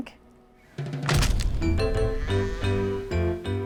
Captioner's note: loud crack